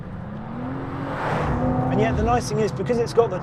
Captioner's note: vehicle revs